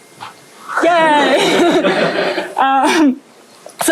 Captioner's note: laughter